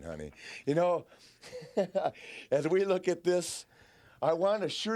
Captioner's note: laughs